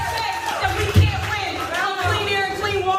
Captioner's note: applause